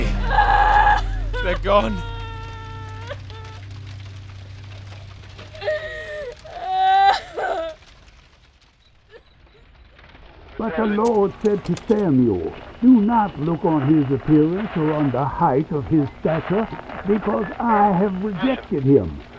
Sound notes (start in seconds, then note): 0.0 Emily cries; 2.0 Emily sobs; 5.6 crying sounds; 10.1 background radio